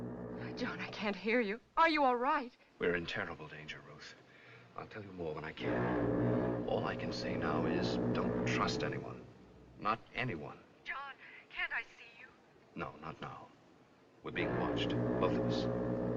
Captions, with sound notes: John, I can't hear you. Are you all right? We're in terrible danger, Ruth. I'll tell you more when I can. - [Foghorn Blows] - All I can say now is don't trust anyone. - Not anyone. - John, can't I see you? - No, not now. We're being watched, both of us. - [Foghorn Blows]